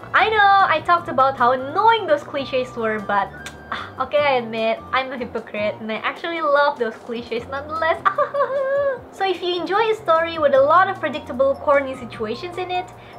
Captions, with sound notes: I know I talked about how annoying those clichés were, but okay I admit, I’m a hypocrite I actually love all those clichés nonetheless [old lady giggles] So if you enjoy a story with a lot of predictable corny situations in it